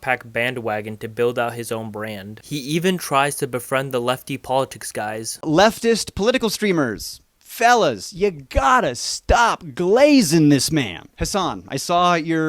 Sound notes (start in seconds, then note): none